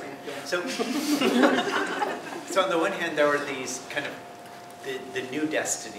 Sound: laugh

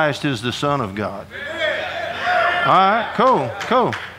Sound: audience applauding and cheering

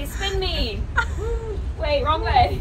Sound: laughs

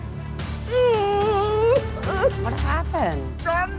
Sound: crying

